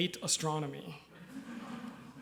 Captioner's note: laughter